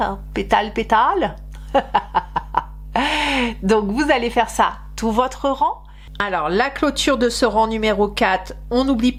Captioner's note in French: rires